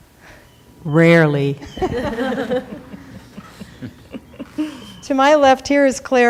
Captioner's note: laughing